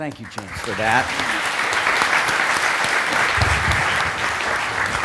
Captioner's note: applause